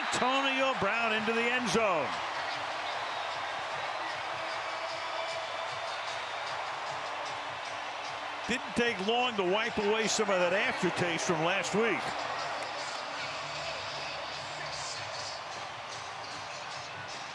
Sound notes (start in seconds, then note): 2.1 cheering; 3.0 pa announcement